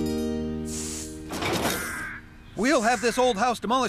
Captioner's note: boards Clatter